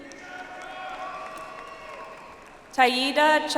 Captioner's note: audience applauds